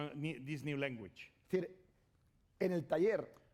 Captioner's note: speaking spanish